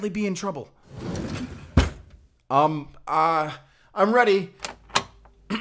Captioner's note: door opens